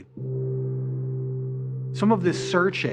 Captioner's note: gong vibrating